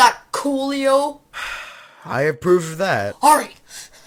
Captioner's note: sigh